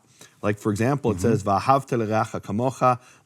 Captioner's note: speaking in Hebrew; speaking in Hebrew